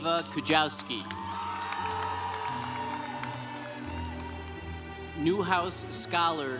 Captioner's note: congregation cheering